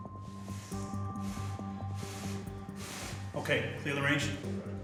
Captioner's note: blowing